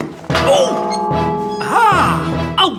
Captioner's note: loud Clang!